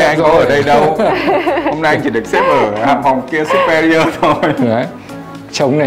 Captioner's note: laugh